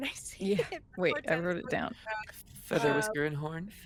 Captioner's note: chuckles